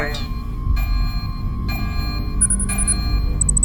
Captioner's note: alarm blaring; machine humming; suspenseful music